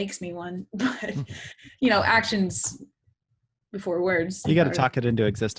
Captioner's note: laughs